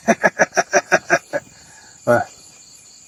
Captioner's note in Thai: เสียงหัวเราะ